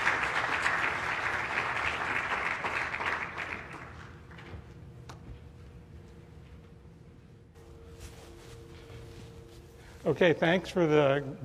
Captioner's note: applause